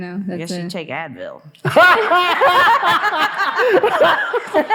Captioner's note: all laughing